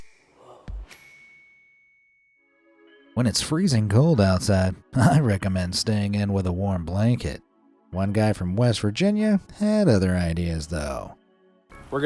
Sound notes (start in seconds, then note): 1.1 logo pings